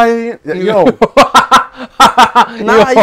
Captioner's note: laughing